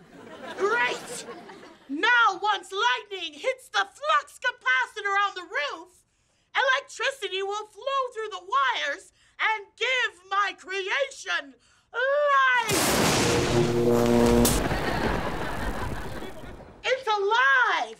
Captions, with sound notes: Great! Now once lightning hits the flux capacitor on the roof, electricity will flow through the wires and give my creation life! [electricity zapping] It's alive!